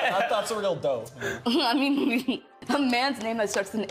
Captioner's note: chuckling